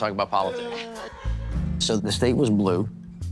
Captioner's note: laughing